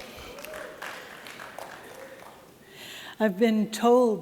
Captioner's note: applause